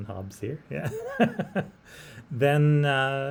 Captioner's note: laughs